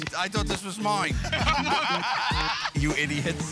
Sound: laughter

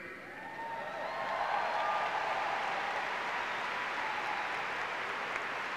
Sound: audience clapping and cheering

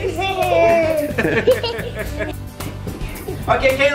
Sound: laughing

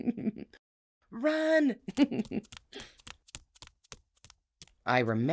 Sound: laughs

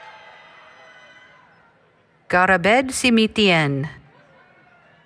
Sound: applause, Cheering

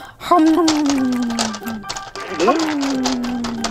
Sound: chewing

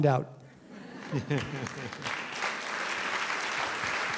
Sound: applause

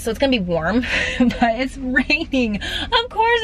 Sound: laughing

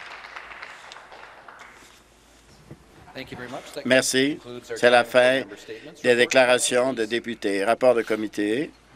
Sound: some Applause

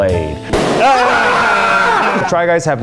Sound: balloon pops; screams

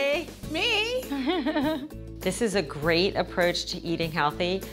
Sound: laughter

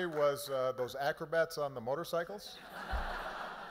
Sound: applause

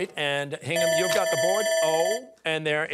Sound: bell ringing

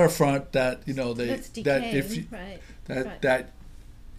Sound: voiceover

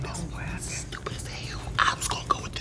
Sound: whispers

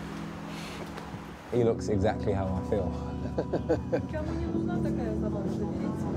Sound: laughing

